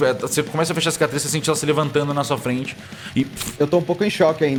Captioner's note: rustling